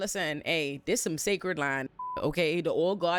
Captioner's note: beep